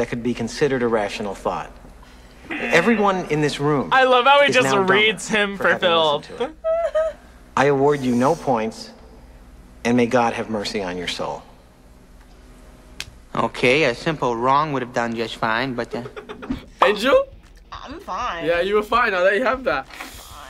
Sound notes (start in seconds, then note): 2.4 both laugh; 2.5 buzzer